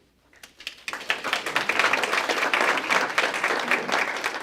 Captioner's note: applause